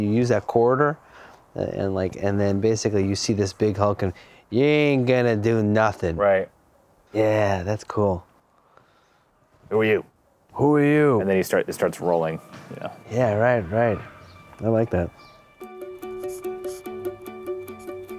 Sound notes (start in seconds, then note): 5.2 voiceover; 15.1 cheerful music